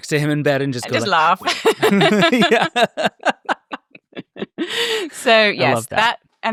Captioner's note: laughs